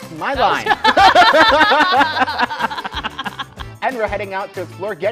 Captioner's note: laughter